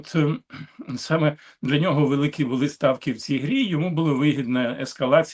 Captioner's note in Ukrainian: прочищення горла